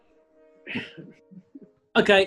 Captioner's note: clears throat